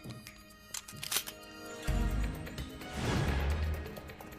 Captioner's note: gun clicking